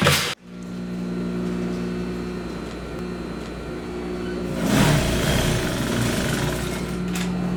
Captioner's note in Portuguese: Ruído de máquina